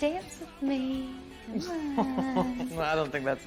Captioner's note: laughing